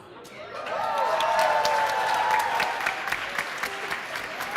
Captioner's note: applause